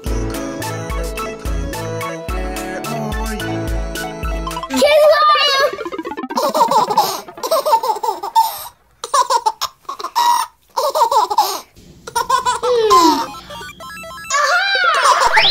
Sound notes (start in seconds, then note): 0.0 yelling; 6.1 baby laughing